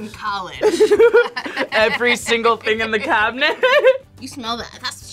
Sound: laughs

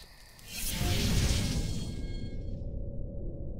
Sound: whooshing

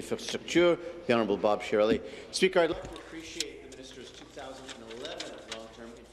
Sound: speaking in French

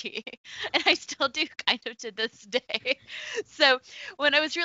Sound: laughs

